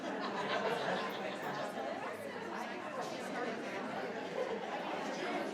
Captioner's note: crowd talking continues